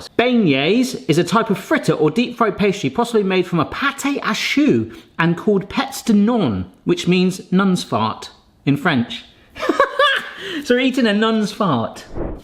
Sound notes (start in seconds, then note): 9.7 guffawing